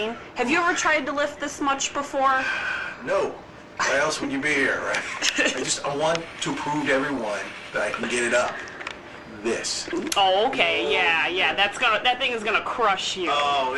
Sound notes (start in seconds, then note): 5.1 donald's mom laughs